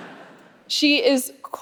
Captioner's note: audience laughing